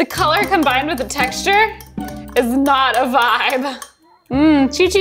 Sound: chuckling

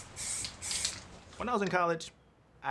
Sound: paint hissing

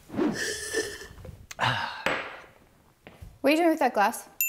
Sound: slurps

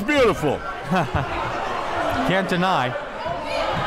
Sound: laughing

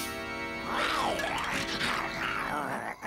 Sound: growling

